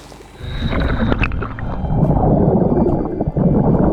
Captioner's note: water gurgling